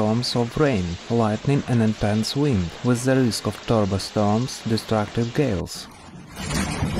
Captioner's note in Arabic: عواصف مدمرة